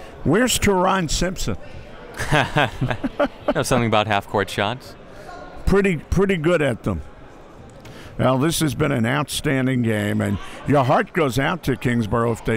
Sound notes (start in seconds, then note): 2.2 laughs